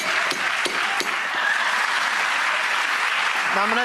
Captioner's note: banging; audience applause